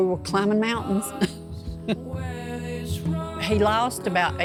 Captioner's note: laughing